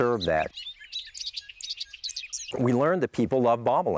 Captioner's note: birds chirping